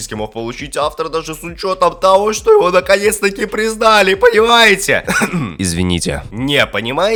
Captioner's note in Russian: Кхм